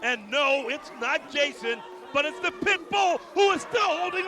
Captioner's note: crowd cheering